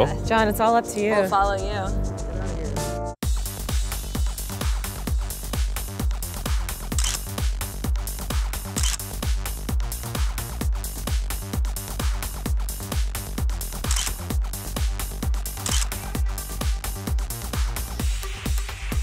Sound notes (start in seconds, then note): 3.3 electronic music; 7.1 camera shuttering; 15.5 camera shuttering